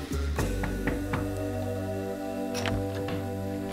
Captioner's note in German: Klopfen; Tür geht auf